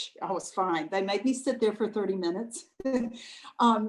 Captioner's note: laughs